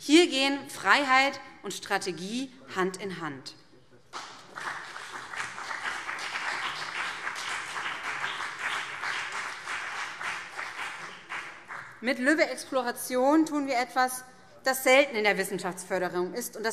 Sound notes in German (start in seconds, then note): 4.1 Beifall BÜNDNIS 90/DIE GRÜNEN und CDU